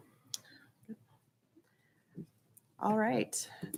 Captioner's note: people chattering